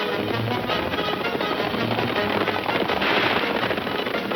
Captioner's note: gunshot